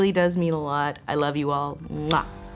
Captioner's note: smooches